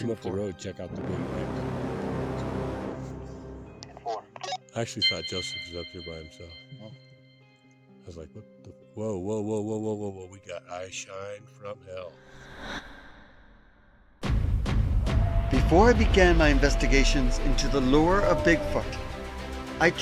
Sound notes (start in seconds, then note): 0.7 suspenseful music; 4.1 participant on radio